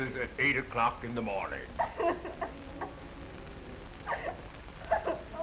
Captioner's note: Mary Lou sobbing